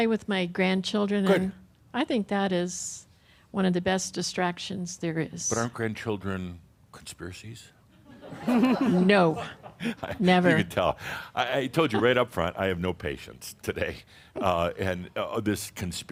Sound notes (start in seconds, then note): 7.2 some chuckles; 8.0 chuckling